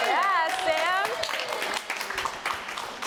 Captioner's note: applause